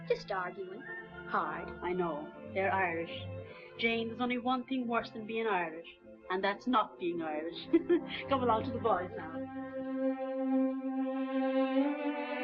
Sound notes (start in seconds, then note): 7.6 laughs; 9.8 gentle music